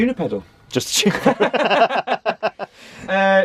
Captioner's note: laughter